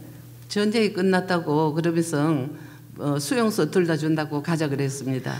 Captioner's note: speaking foreign language